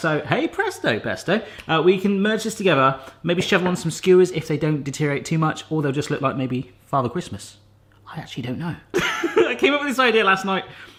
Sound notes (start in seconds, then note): 9.2 laughs